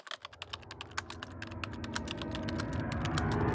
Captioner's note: typing